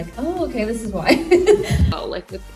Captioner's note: laugh